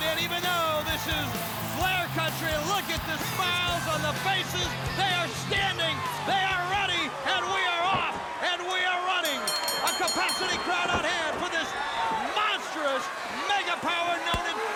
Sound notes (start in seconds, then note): 9.2 bell ringing